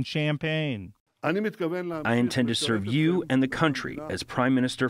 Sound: through translator

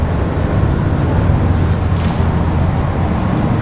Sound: engine revving

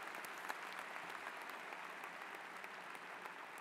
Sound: applause

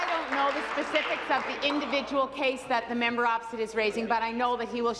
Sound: applause

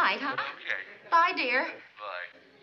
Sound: on phone

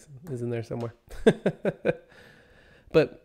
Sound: laughs

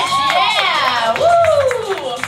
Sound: clapping

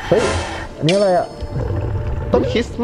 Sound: exhale

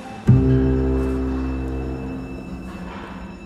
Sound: bell ringing

